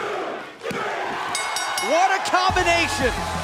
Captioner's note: bell ringing